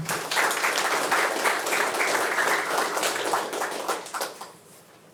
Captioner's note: attendees applauding